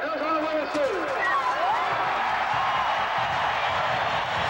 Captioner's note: crowd cheering